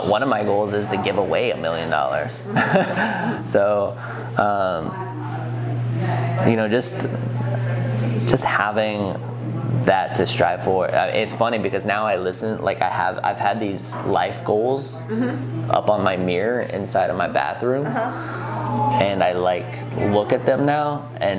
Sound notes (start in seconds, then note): 2.5 laughing